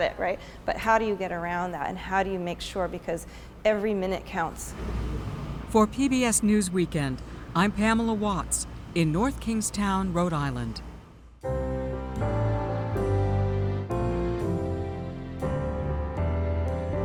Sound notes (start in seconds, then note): 6.3 voice-over